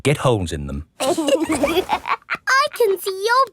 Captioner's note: laughs